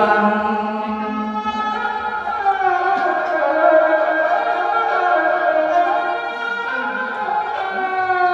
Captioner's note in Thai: ปรบมือ